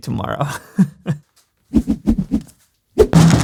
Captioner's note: chuckles; whack